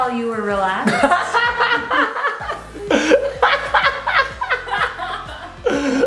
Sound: laughing

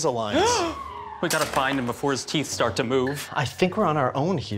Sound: gasp

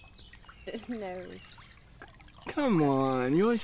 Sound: chuckles

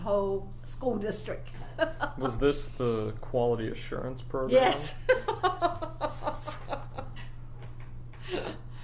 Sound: laughs; bursts into laughter

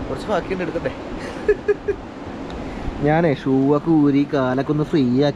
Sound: laughs

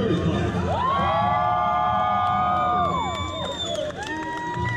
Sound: team cheers

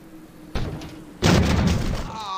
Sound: wind blows; rock crashes

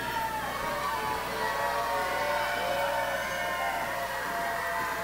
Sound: audience jeering

